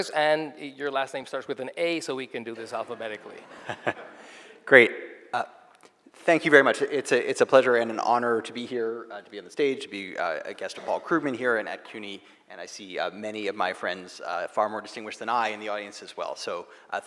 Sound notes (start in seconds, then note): 2.6 audience laughing